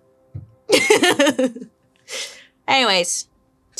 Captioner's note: laughs